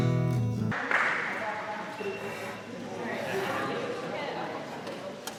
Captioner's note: attendees faintly speaking